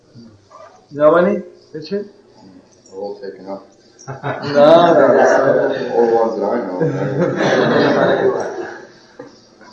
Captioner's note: laughter